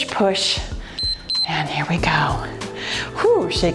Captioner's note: timer beeps